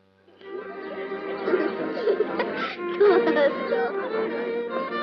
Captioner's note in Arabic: ضحك